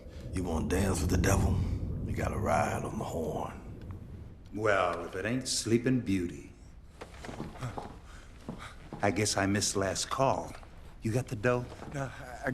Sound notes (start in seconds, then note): 7.5 gasps